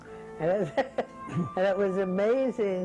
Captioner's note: laughs